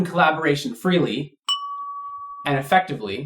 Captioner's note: ding!